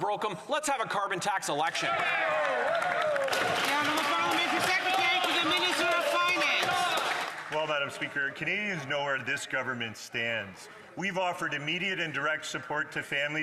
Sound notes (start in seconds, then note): 6.5 some Applause